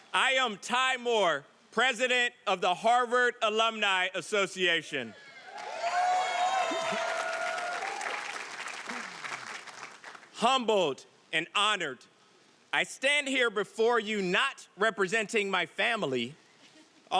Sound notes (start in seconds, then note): 5.4 audience cheering and applauding